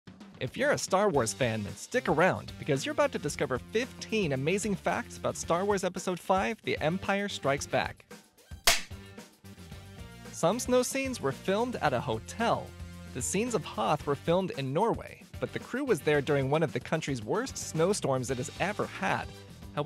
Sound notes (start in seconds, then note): 1.4 upbeat music playing; 8.4 film clapper sound, music continues